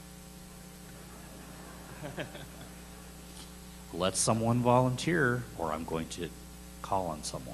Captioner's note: laughter